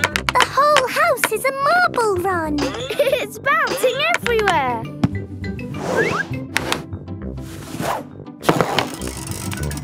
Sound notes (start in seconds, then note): 4.3 laughing